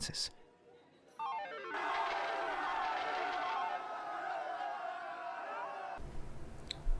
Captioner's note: faint machine-ringing with crowd cheering